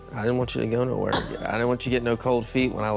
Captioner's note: laughs